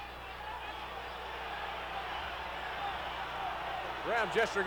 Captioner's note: audience cheering